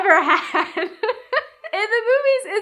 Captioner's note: laughs